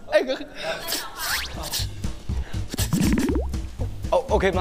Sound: slurp

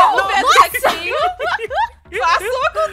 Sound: laughs

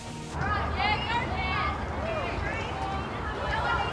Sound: kids shouting

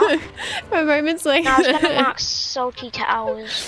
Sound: laughs

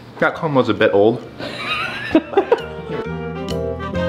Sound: laughter

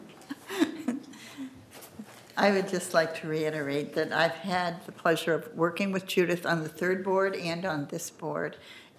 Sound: laughter

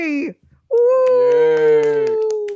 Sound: clapping

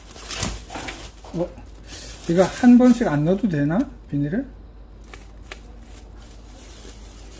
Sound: more plastic bag

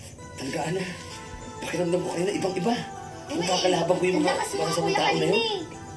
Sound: none

